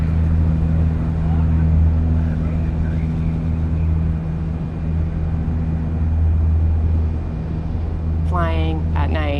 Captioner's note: rumble of engine